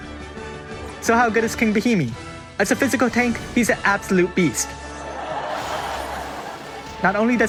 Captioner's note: laugh track